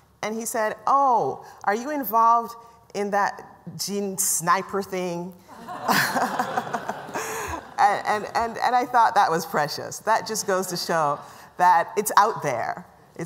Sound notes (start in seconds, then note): 5.5 laughter